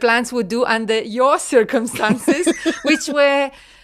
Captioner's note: laughs